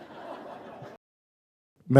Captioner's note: laughter